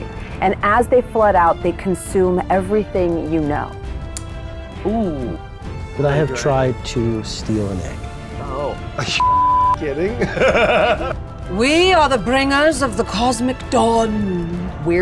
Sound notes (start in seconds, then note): 9.2 beep; 9.8 laughing